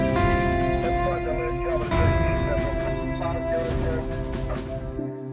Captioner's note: soft, upbeat music; police radio chatter